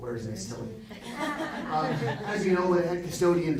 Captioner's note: audience laughing